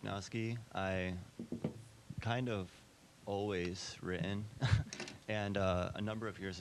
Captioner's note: chuckling